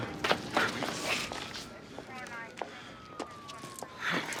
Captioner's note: police radio chatter